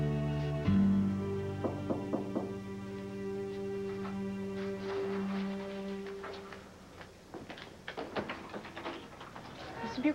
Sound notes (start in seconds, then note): 3.2 knock odoor